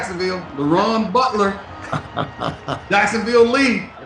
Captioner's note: laughs